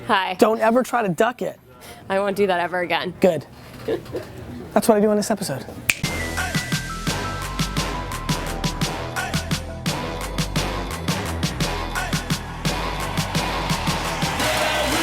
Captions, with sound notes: - Hi. - Don't ever try to duck it. - I won't do that ever again. - Good, that's what we do on this episode. (snaps fingers) (uptempo music)